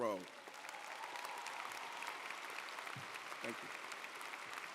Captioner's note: audience applauding